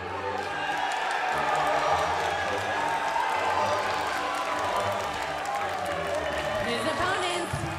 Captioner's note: crowd cheering